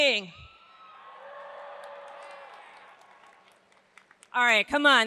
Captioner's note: audience cheers